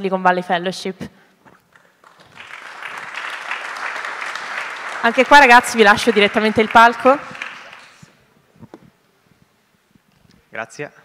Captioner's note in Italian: Applauso